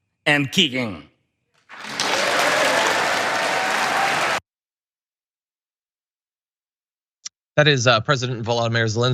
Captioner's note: applause